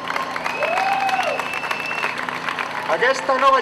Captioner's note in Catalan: aplaudiments